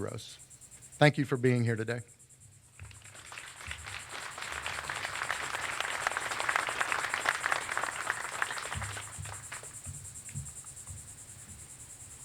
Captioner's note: applause